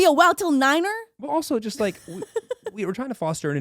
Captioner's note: laughing